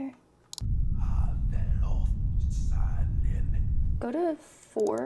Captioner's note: speaking foreign language